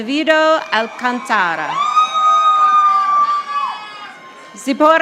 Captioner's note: audience applauding